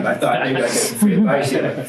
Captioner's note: all chuckle